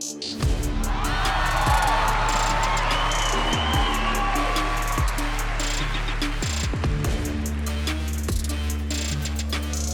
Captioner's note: cheering